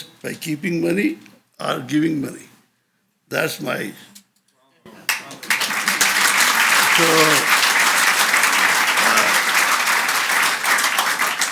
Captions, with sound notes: by keeping money or giving money. That's my... (audience applauds)